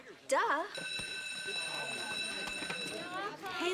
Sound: bell rings

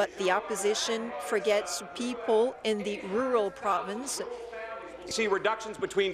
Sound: speaking in French

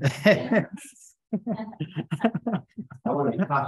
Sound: attendees laughing

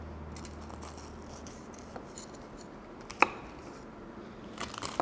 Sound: dough softly crunching

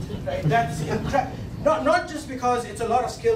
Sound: laughing

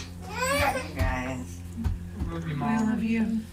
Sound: baby cries

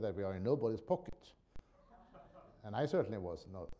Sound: laughter

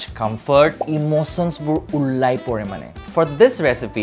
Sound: speaks foreign phrase

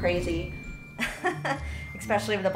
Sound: laughs

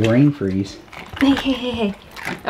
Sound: crunching

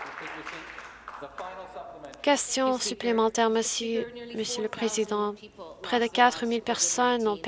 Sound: some Applause

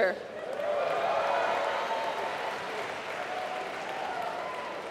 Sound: applause

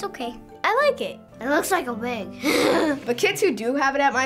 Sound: laughing

